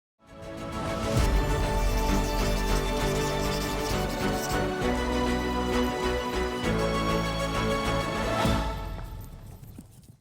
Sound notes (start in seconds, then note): 0.2 inspiring music; 1.6 pen scratches